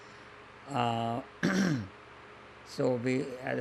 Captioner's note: clears throat